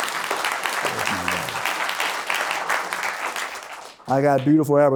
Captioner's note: applause